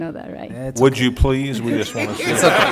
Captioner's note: laughing